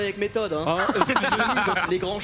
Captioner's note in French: rires